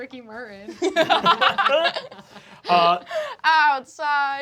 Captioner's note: laughter